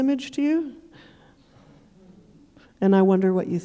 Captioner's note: audience chuckling